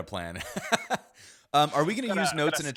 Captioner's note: laughs